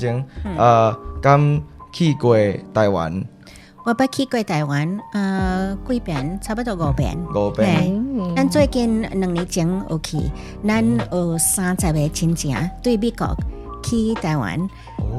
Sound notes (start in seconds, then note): 0.1 Taiwanese